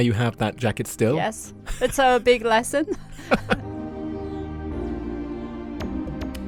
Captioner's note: voiceover